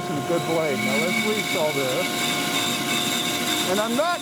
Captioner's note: bandsaw roaring